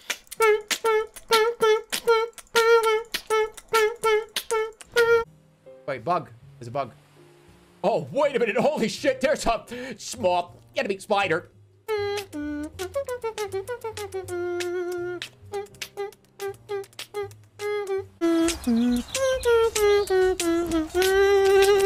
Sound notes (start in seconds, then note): 11.6 beatbox of spider theme variation; 21.6 beatboxing devolves into laughing